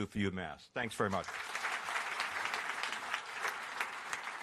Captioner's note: applause